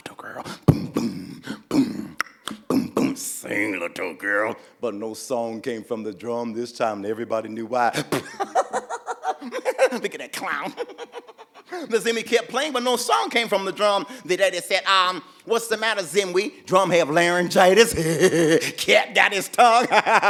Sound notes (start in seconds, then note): 2.6 Zimwi angrily whispers; 7.9 laughing at the Zimwi; 10.5 laughing continues; 17.9 father laughing; 17.9 continues laughing